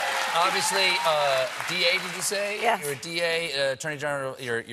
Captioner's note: applause